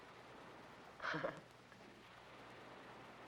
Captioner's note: Johnny laughs